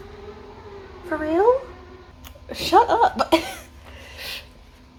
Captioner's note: even more REALLY loud car noises